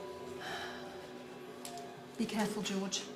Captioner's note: sighs